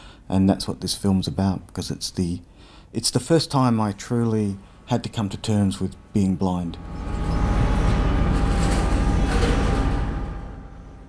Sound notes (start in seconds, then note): 7.0 screaming, truck going past